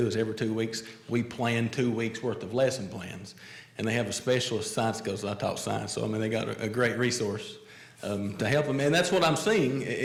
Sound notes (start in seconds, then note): none